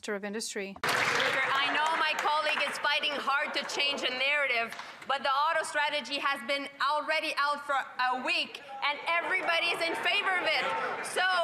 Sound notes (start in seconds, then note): 4.1 some Applause